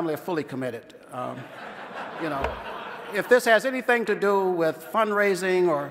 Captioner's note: laughter